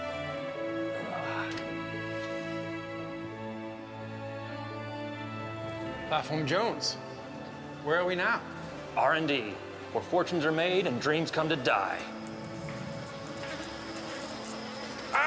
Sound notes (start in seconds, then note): 1.1 sighs loudly; 12.1 bugs buzzing loudly